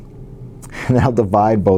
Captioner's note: laugh